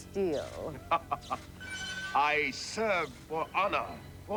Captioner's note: laughing evilly